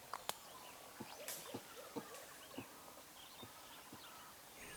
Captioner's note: gorilla clucking